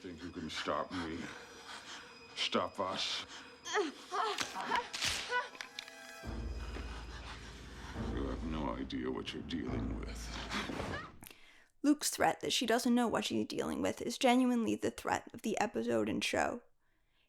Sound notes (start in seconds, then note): 3.6 grunts, gasps